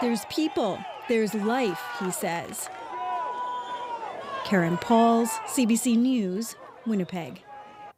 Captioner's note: cheering